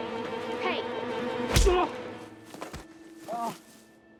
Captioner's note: boy groans; boy moans